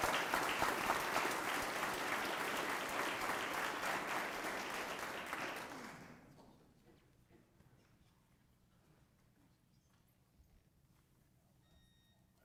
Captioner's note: applause